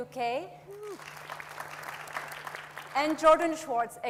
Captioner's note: audience applauds